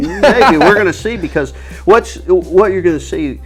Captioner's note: laughing